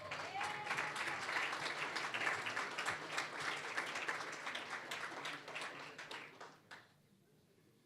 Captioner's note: applause